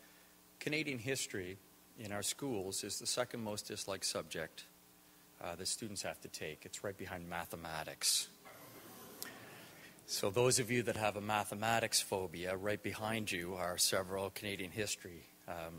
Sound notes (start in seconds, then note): 8.6 audience laughter